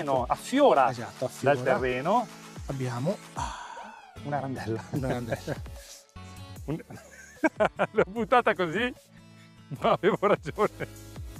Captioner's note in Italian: risate